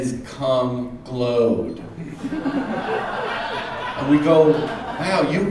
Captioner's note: audience laughs